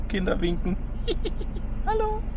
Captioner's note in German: lacht